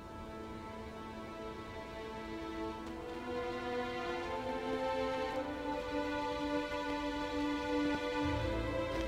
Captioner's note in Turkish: Ayak sesleri